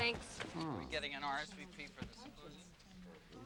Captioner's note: chatter